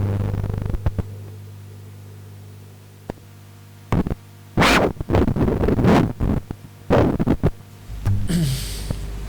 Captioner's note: sound of a broken tape recorder